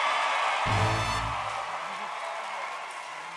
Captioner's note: audience cheering